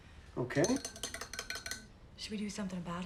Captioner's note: spoon clinking